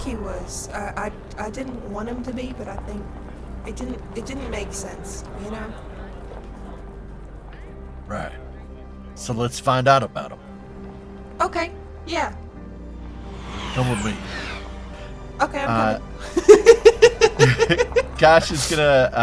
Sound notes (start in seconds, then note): 16.2 laughs